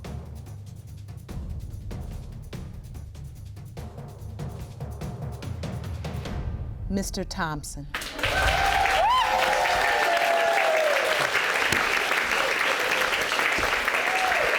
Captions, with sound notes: Mr. Thompson. (AUDIENCE CHEERING)